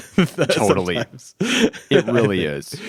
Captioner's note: laughs